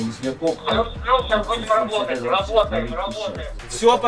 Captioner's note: Radio in, SPG